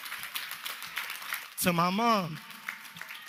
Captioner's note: applause